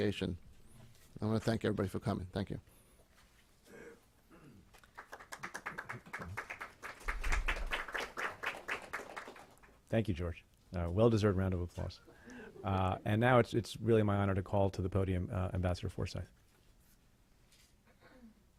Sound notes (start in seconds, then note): 4.7 clapping